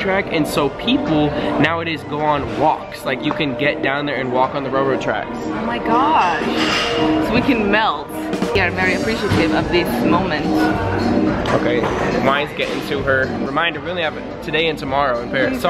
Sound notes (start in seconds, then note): none